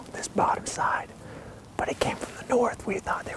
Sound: whispering

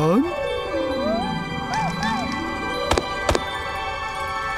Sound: barking

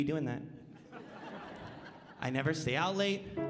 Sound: audience laughing

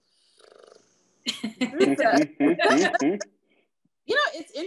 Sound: members laugh

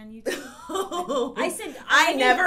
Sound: laughs

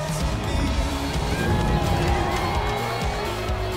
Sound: cheering

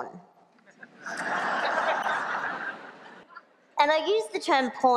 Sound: laughter

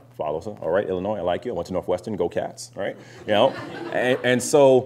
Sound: laughter

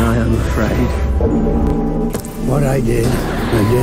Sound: cloister bell rings

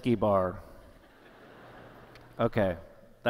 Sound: laughter

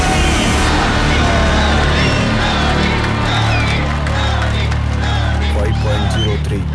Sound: crowd Cheering

